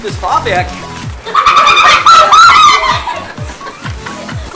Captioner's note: the most hysterical laughter